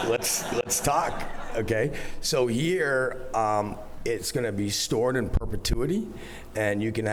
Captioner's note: laughter